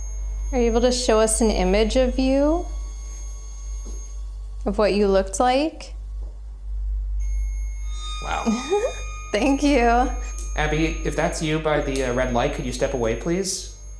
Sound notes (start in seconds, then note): 6.2 eerie music; 7.3 REM-Pod beeping